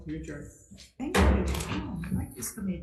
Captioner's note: hammer thuds